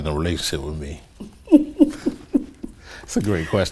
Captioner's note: woman laughing